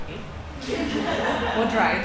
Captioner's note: laughing